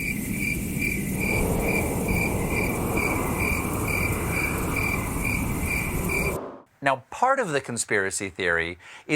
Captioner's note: crickets